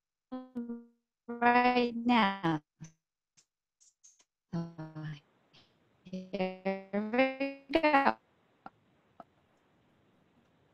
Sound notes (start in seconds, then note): 2.1 audio fading